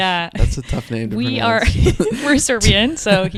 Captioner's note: both laugh